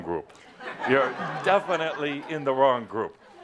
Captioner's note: laughter